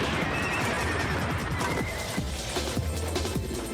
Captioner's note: soldiers screaming